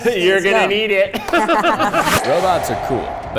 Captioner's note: laughs